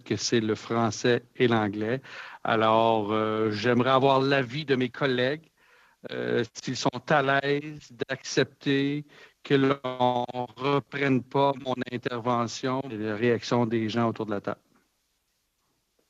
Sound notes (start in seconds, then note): 2.6 speaking French